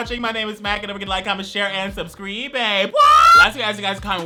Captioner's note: yells